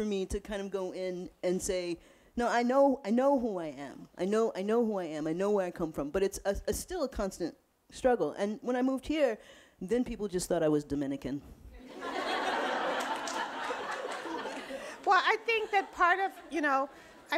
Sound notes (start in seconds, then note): 11.8 audience laughing